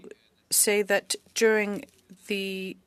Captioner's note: speaking French